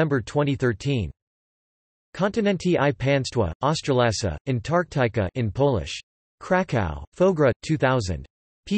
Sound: in Polish

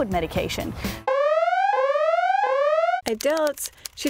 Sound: alarm rings

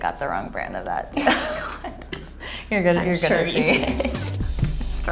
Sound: laughs; electronic music

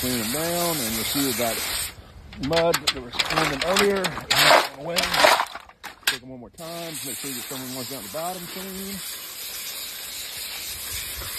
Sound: oysters banging

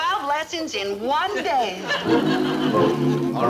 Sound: people humming

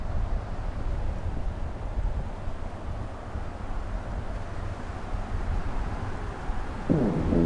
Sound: grassland wind

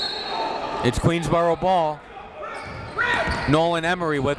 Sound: whistle blows

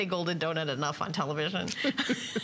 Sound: laughter

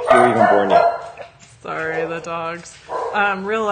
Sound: dog barking

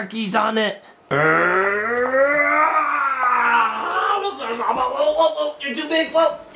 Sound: growls

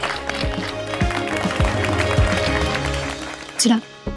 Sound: clapping

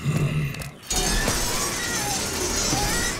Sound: screeching

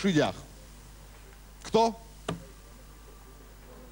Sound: slap

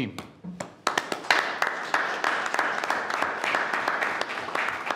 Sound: clapping

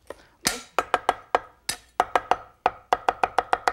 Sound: knife chops

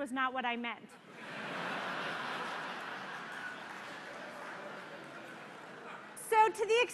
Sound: laughter

